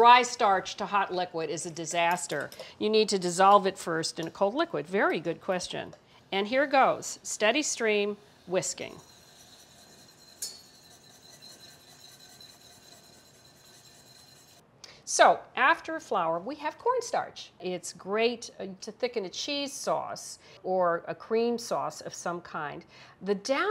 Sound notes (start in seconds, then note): 8.4 whisk scraping